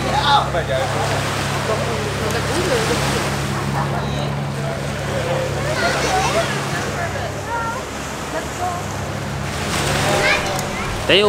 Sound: sound of sea

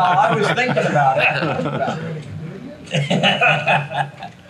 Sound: everyone laughs; chuckles

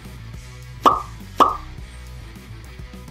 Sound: pop, pop!

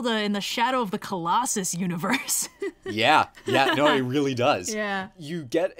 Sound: laughs

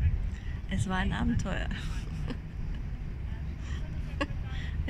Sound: laughing

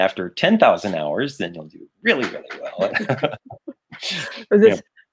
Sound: laughing

